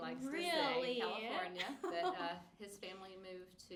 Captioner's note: laughs